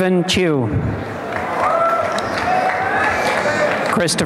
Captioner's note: applause and cheering